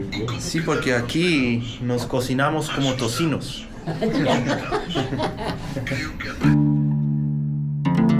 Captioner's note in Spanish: risas